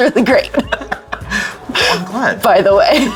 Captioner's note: laughing